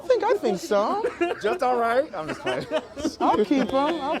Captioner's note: man laughing